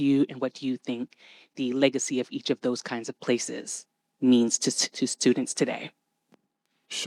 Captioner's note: none